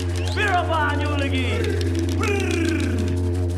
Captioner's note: cheering and applause